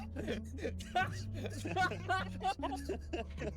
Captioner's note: laughs